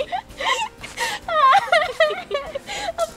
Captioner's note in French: rires